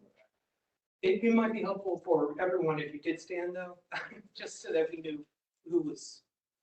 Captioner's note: laugh